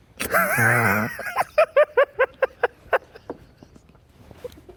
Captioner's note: laughing